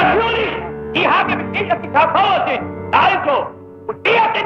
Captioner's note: German spoken audio